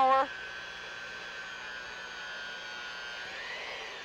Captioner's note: whirring